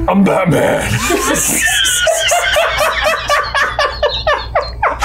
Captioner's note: all laughing